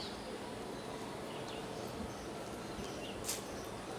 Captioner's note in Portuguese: pássaros cantando